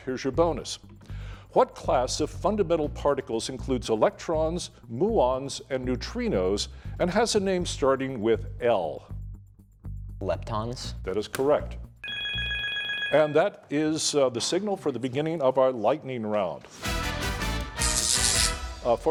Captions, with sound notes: Here's your bonus, what class of fundamental particles includes electrons, muons and neutrinos, and has a name starting with L? Leptons. That is correct. [bell ringing] And that is the signal for the beginning of our Lightning Round. [upbeat music]